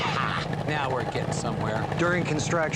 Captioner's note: snapping